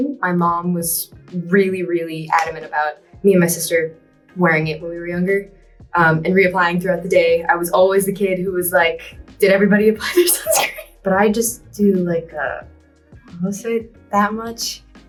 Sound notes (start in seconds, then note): 10.0 laughs